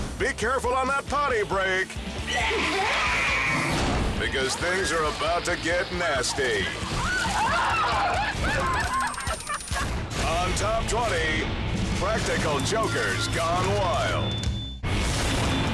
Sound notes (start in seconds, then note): 2.4 person growls; 3.8 transition whooshes; 6.8 people screaming; 8.4 countdown squeals; 13.1 intense music